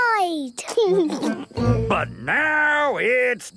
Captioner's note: laughing